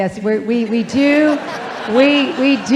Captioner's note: audience laughing